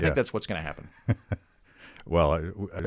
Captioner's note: chuckling